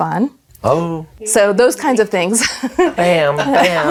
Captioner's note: laughs